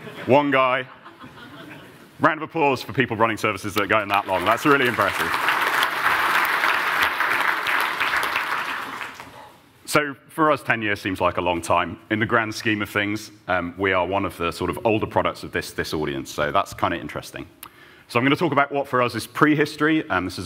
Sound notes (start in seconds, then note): 0.8 laughter; 5.9 applause